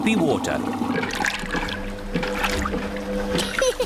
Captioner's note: machine rumbles; giggles